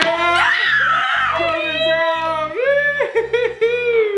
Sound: screaming

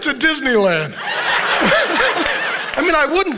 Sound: congregation laughing

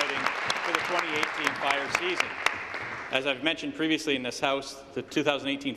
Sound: applause

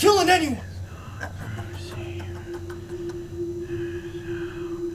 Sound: laughing

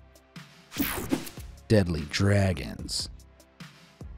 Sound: page swishing

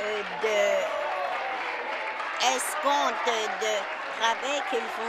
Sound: applause

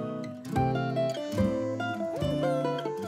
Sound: humming

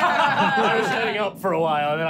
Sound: laughing

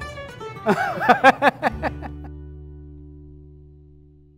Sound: laughs

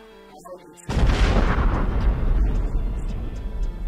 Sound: explosion

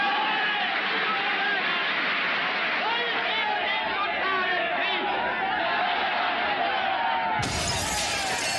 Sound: speaking German; glass Breaking

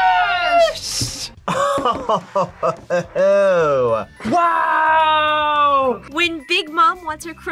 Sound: laughs

